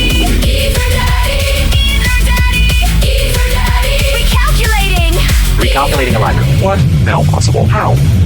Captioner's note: male announcer, robotic voice